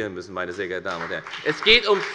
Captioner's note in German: Beifall bei der FDP